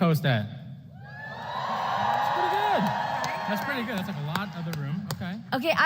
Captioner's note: applause